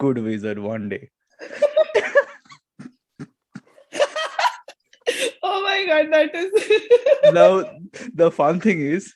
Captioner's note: laughter